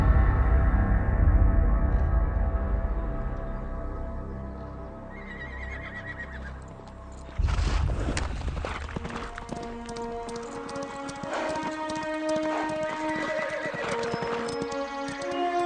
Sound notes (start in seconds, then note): 5.1 horse neighing; 9.7 dramatic music; 13.8 horse neighing